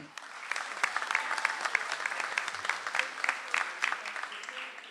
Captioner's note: audience applauds